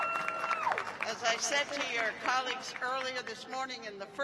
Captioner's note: cheers and applause